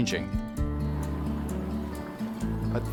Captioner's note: engine rumbles